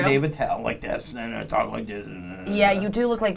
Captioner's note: growling